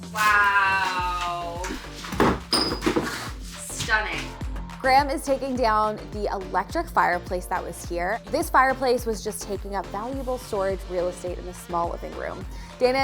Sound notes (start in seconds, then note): 2.2 metal clinking